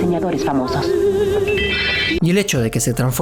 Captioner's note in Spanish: Sonidos mágicos